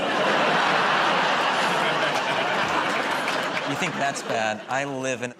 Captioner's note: laughter